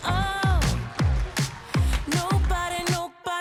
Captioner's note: audience cheers and applauds